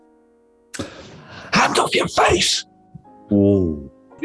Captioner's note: whispers